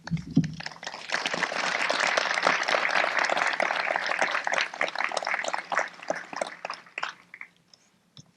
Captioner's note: applause